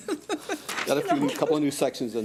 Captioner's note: laughter